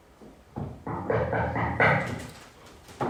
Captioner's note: knock on door